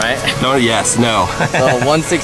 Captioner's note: laughs